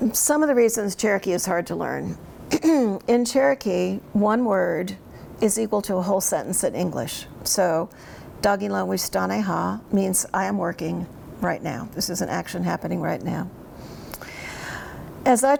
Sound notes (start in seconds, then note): 7.7 speaks in Cherokee